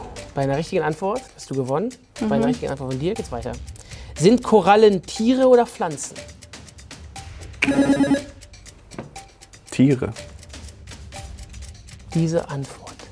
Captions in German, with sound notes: Bei einer richtigen Antwort hast du gewonnen. Bei einer richtigen Antwort von dir geht's weiter. (Buzzer) Tiere. Diese Antwort,